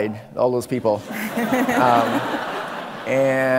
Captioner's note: audience laughing